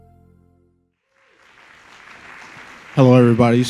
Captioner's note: crowd clapping